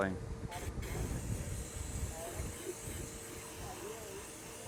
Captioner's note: spray can spraying